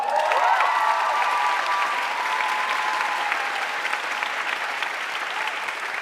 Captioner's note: audience cheering and applauding